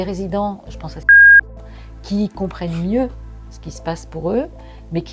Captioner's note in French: bip